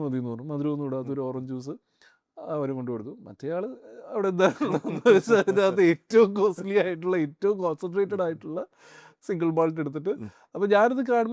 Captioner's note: laughs